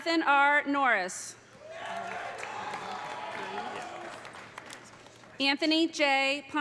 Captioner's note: audience cheering; audience applauding